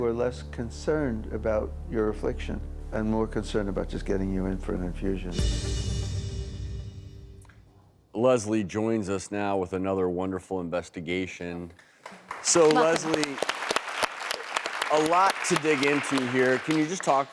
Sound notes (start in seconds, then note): 5.5 dramatic music; 12.0 audience applauding